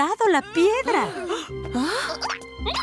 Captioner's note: gasping; caterpillar noises